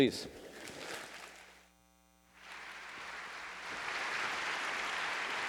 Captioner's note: audience applauding